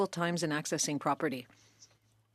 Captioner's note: speaking French